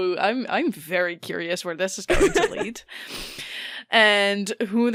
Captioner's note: laughs